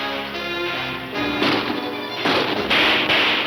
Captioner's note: guns shooting